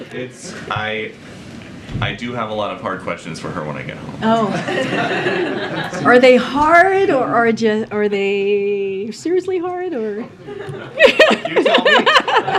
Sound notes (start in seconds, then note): 4.4 laughter; 10.4 laughs